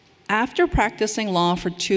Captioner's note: none